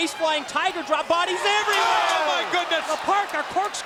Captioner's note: applause